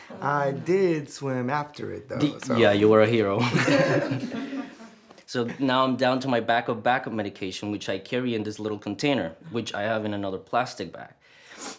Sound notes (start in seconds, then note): 3.4 laughter